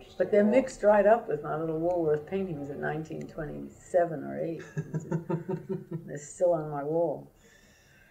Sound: laughter

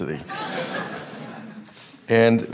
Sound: laughing

